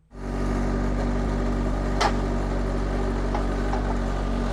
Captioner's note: engine rumbling